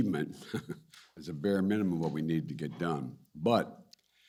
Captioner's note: laughs